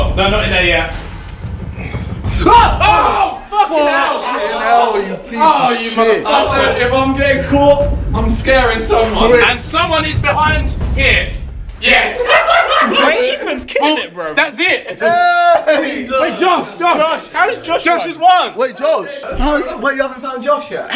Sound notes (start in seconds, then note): 2.4 scream; 12.0 laughing